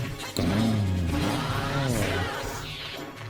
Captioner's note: grumbling